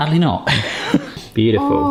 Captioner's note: laughs